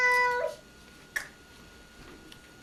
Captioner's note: snap